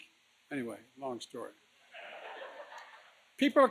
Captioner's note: laughter